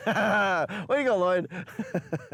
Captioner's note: laughing